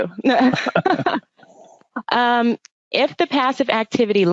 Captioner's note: laughing